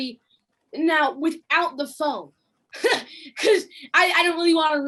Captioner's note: laughs